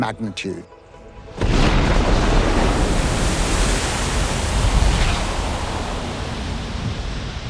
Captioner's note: bomb booms; water splashing